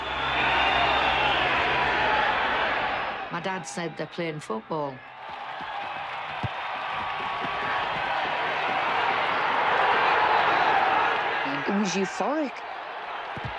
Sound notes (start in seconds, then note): 0.2 crowd cheers; 5.0 crowd cheers; 9.8 crowd chants